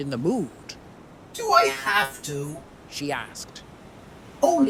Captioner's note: robot voice